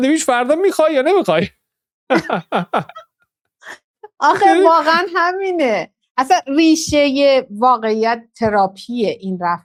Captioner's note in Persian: خنده